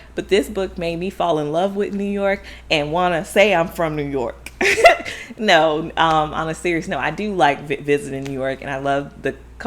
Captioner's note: laughs